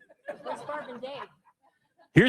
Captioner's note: audience laughing